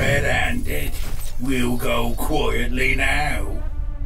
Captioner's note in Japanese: 皮肉を込めて